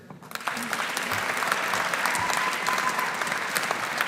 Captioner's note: audience applauding